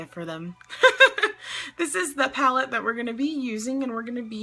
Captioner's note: laughs